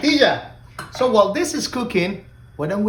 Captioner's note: spoon tapping